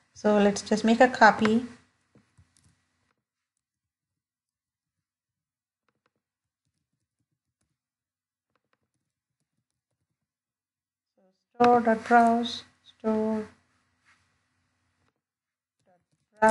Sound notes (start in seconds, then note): 3.5 no audio while typing